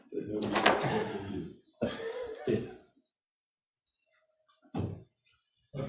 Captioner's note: chuckling